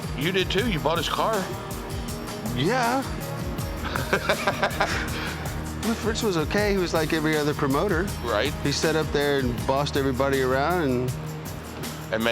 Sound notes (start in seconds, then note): 3.8 laughs